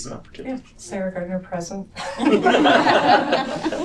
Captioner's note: laughter